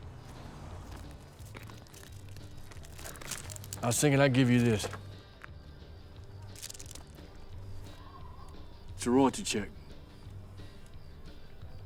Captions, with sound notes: I was thinking I'd give you this. (wind blowing) - It's a royalty check.